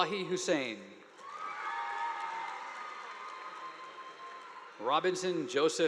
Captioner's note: audience applauding